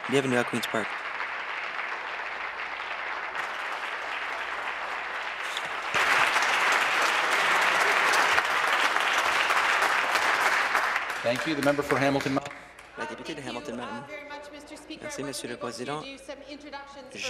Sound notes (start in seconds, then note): 3.3 applause